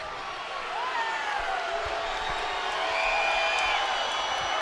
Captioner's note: crowd cheering